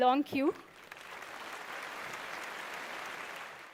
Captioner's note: applause